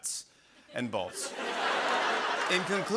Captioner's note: laughter